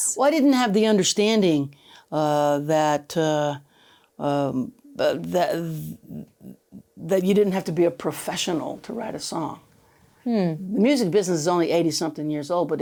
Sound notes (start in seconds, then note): none